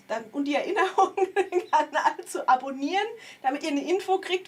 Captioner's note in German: gelächter